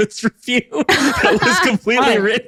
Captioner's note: laughs